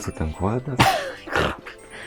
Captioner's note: coughing in Lithuanian